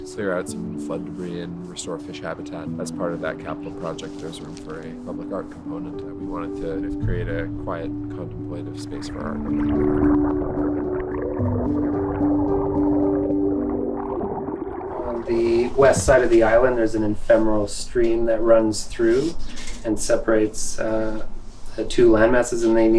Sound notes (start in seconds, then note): 8.8 water gurgling